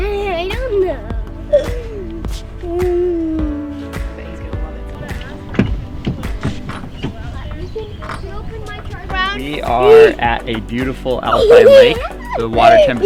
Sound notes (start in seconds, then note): 3.5 laughing; 4.2 people chatting in background